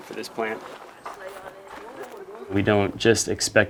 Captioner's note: dirt scrunching